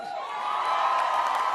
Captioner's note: cheers and applause